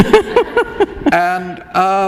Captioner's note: laughter